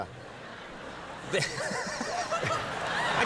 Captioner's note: laughing